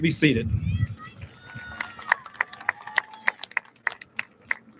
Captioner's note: audience lauds